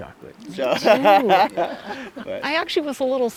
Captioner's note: laughing